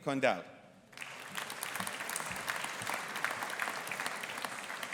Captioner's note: audience applauding